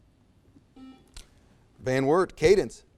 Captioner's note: buzzer